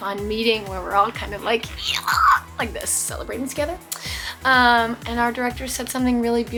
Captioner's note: screams